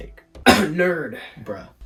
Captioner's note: cough